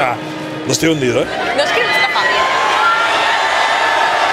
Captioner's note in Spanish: Ovación